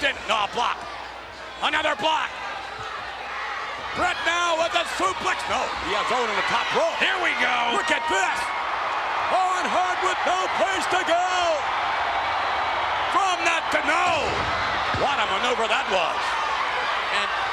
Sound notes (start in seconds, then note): 8.7 spectators cheering